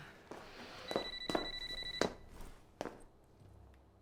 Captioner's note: phone ringing